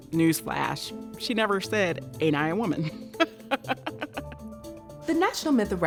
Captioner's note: laughs